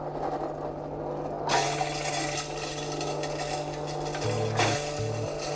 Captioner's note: bottles crushing